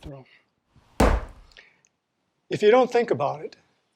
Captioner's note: banging